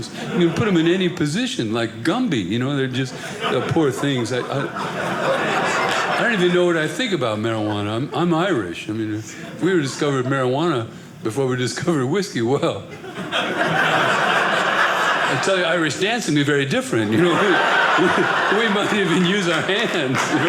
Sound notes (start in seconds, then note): 12.9 audience laughing